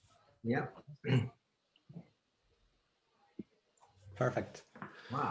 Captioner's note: clears throat